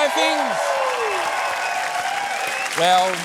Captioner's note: cheering, applause